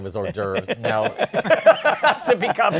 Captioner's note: laughter